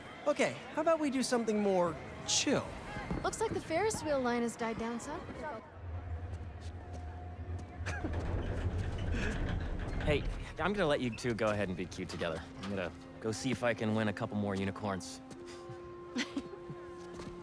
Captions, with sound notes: Okay, how about we do something more.. chill? Looks like the ferris wheel line has died down some. (laugh) Hey, I’m gonna let you two go ahead and be cute together. I’m gonna.. go see if I can win a couple more unicorns. (laugh)